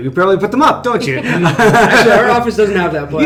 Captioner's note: laughing